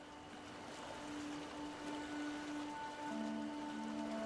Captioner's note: waves on shore